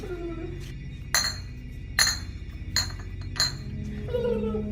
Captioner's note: medicine vials clacking over music; suspenseful music continues